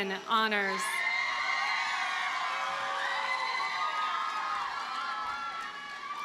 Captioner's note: audience cheers and applauds